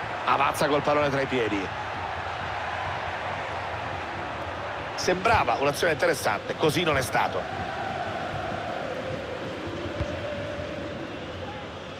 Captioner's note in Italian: Applauso